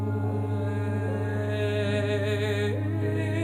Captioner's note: chanting